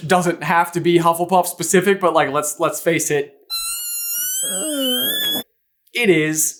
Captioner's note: teeny tiny shrieky scream